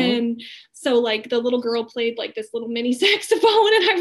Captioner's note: laughing